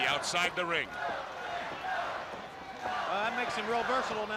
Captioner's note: crowd cheering